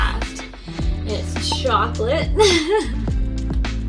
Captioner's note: laughs